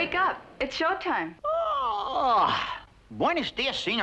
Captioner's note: yawns